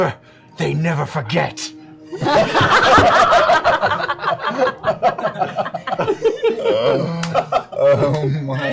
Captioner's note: laughter